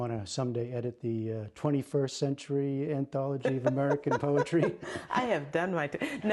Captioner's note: laughter